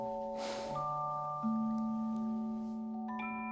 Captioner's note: sigh